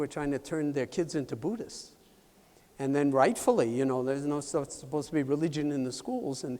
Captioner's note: none